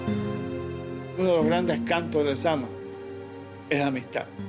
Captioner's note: speaking Spanish